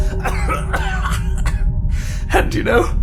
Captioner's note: hacking coughs; laughs